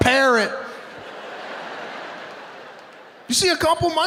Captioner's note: audience laughing